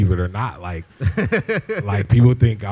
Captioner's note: laughter